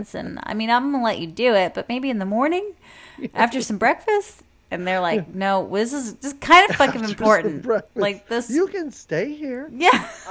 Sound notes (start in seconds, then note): 6.5 laughs